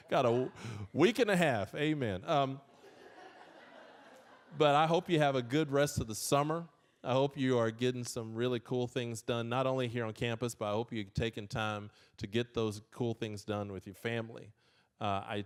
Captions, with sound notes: Got a week and a half, amen. (audience laughing) But I hope you have a good rest of the summer. I hope you are getting some really cool things done, not only here on campus, but I hope you're taking time to get those cool things done with your family.